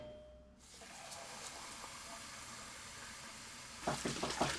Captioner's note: water running; door knocking